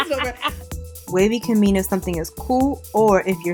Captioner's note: laughing; voiceover